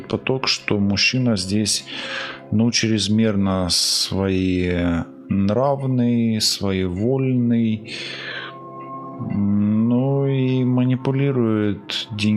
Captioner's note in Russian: тяжело вздыхает